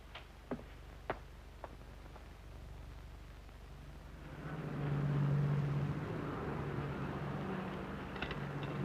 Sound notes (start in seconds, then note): 4.5 engine rumbling